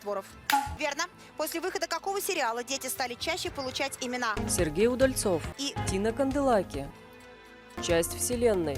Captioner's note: Hikakin's handclap